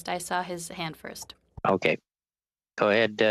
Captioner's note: speaking French